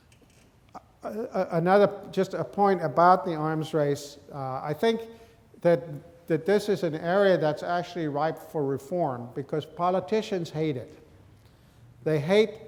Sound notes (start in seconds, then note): none